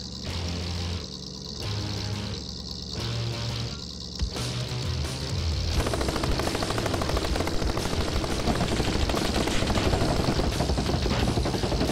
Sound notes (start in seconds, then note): 5.7 cannon firing